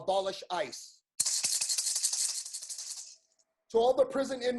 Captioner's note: rattles